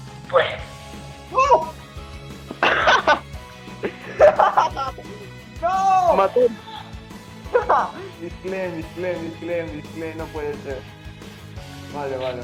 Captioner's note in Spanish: Risas